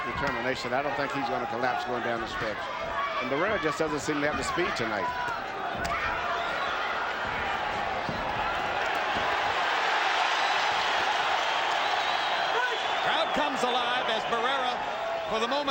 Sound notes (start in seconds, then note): 11.2 crowd cheering